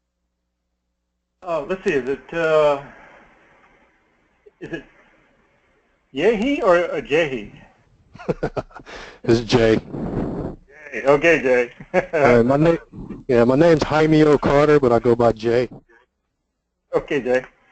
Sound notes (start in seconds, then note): 8.1 laugh